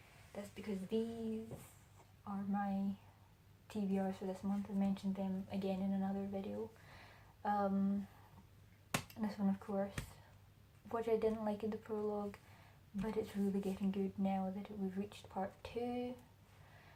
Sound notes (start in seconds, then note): 8.9 slaps book